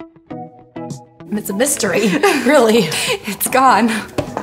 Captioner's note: light music; laughter